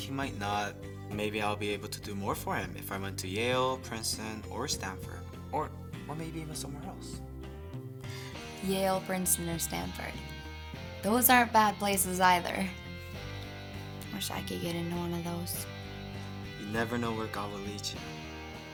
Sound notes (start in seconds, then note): none